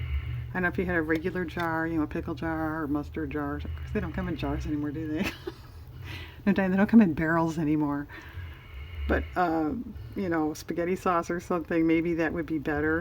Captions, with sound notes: i don't know if you had a regular jar, you know a pickle jar, or mustard jar-- they don't come in jars anymore do they? (laughs) no, Diane, they don't come in barrels anymore, but you know spaghetti sauce or something, maybe that would be better